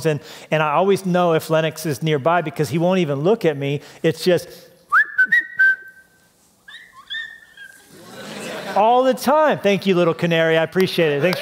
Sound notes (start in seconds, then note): 4.9 whistling